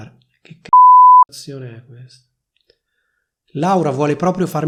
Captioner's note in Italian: beep